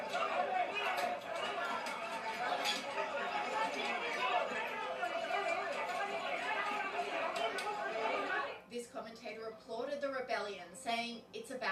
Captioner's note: Tepuk tangan